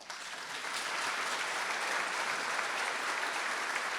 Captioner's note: audience applauding